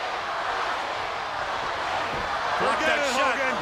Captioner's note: crowd cheering